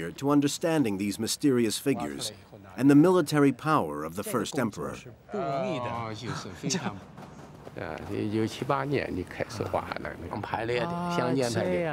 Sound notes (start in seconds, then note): 5.5 speaking in foreign language